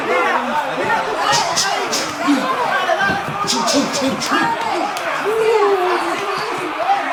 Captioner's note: cheering; shouting; cheering; shouting; cheering; shouting